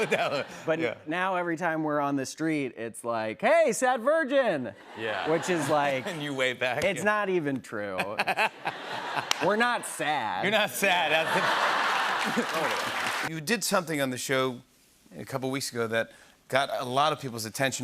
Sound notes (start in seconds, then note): 11.0 laughter